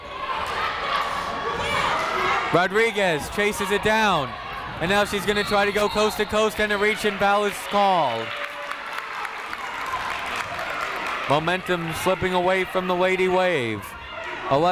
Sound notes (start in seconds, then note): 0.1 people shouting in the crowd; 8.7 crowd applauding